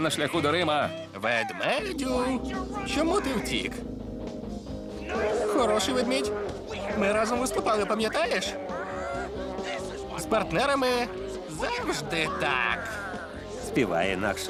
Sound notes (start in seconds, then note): 4.7 growling